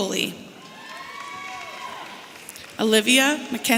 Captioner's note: audience cheering